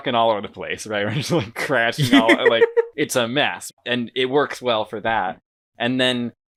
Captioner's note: both laugh